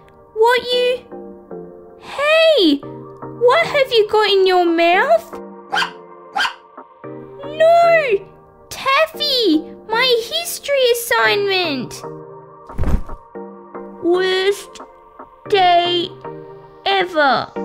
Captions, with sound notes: What you...? Hey! What have you got in your mouth? (Bark! Bark!) No! Taffy! My history assignment! (Thud!) Worst...day...ever!